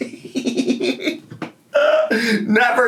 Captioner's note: laughs